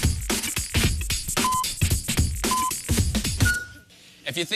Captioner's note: electronic beeping